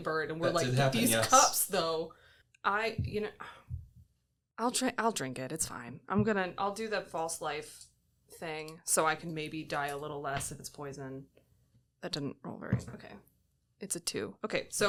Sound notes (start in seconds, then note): 2.9 sighs